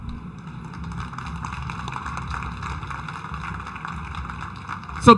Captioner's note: audience applauding